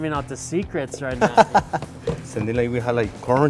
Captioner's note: laughs